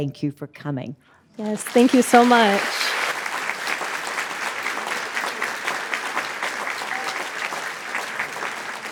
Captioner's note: audience applauding